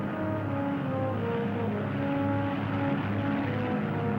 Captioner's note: plane droning